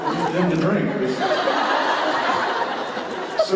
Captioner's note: laughter